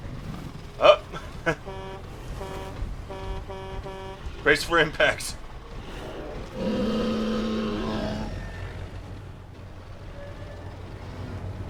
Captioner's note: honk 5x